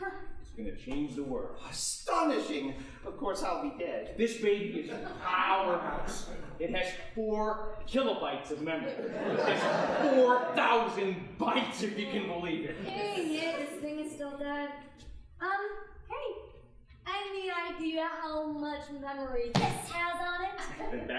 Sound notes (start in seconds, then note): 8.7 audience laughing